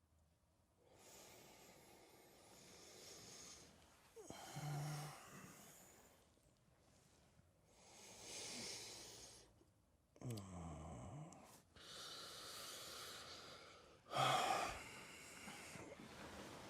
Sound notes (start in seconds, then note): 10.2 Ron groans; 14.1 Ron sighs